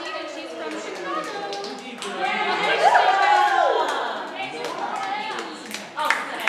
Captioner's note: audience applauding